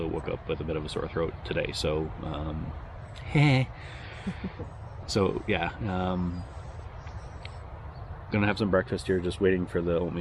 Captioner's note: sarcastic giggle